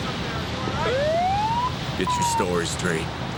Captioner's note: siren wails